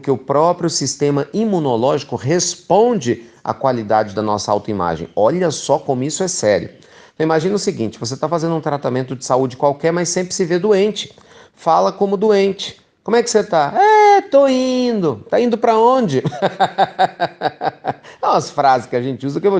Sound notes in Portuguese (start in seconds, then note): 16.2 risos